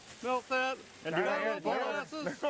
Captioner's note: all chatting